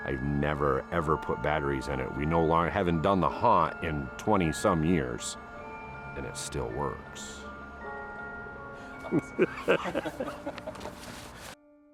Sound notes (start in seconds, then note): 9.0 laughs